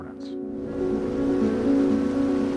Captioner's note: cold wind blowing; river water rushing